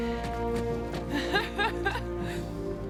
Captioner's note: female laughter